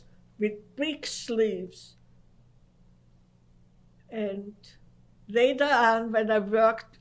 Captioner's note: pauses for 3 seconds